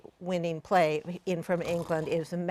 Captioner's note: snores